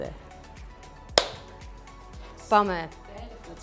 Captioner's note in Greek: ήχος από παλαμάκια